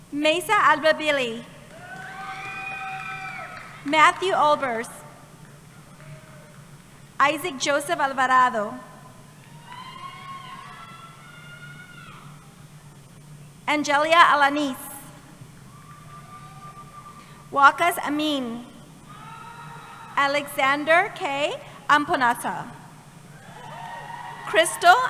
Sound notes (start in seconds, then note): 9.4 cheering